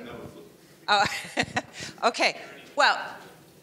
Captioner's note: laughs